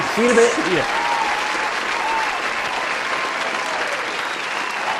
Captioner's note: applause from crowd